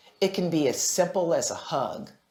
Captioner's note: none